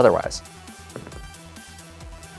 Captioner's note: dice rolling